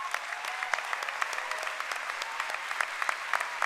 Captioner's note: cheering and applause